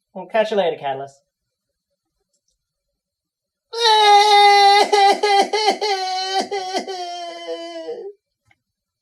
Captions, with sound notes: We'll catch you later, Cataliss. [Bursts into tears again]